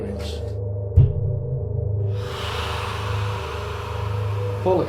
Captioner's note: screaming